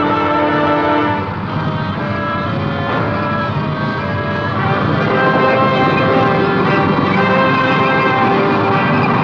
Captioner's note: suspenseful music; tank rumbling